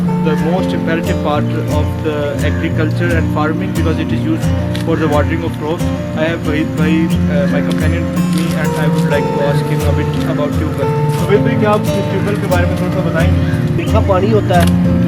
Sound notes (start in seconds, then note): 6.2 speaking in Urdu